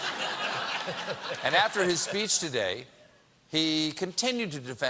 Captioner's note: laughter